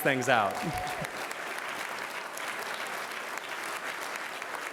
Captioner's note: cheers and applause